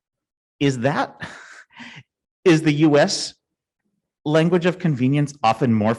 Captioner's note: chuckles